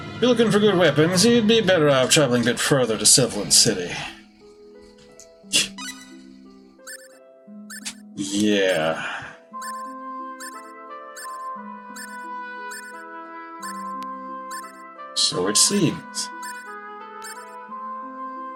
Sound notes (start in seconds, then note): 5.5 laughs softly